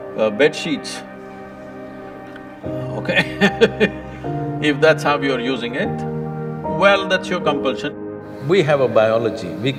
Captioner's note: laughs